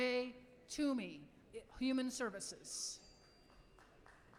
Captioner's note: applause